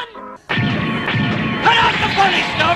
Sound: mecha noises

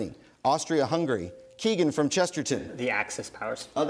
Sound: bell dings

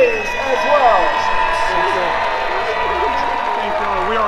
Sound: crowd cheering

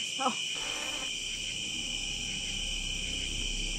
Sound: static buzzing

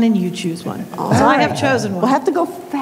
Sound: laughing

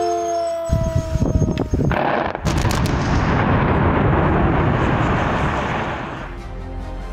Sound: siren; explosion

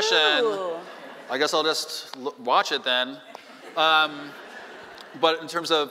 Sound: laughing

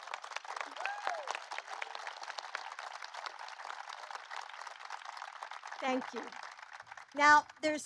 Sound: applause

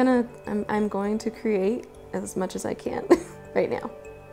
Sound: chuckle

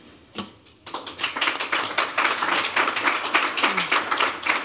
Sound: applause

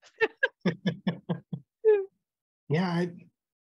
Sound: chuckling

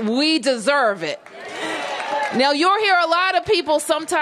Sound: applause

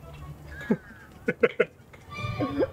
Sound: laughs

